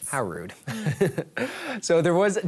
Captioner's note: laughs